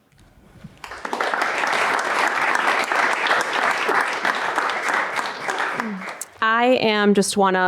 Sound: applause

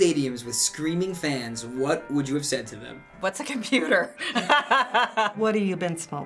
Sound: laughs

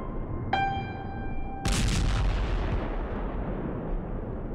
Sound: bombs exploding

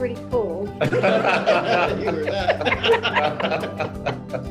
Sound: all laugh

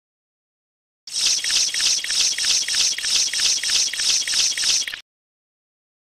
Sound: insect chiterring

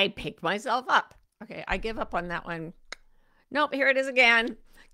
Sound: tongue clicks

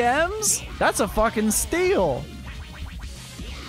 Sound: sarcasm

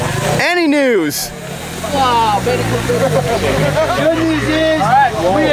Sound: crowd chattering; engines revving

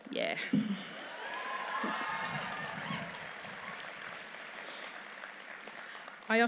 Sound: applause

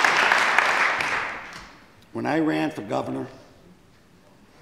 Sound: applause

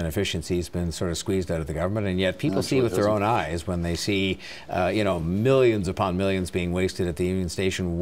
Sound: mixed voices

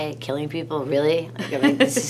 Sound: laughs

